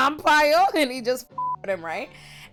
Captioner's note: beep